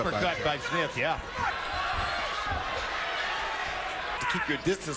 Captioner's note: cheering